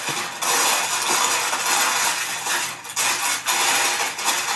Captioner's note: foil rattling